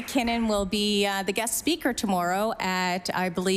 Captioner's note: applause